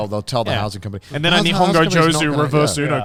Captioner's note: speaking in foreign language